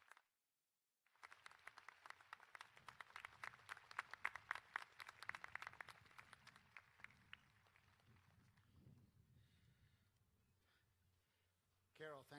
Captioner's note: applause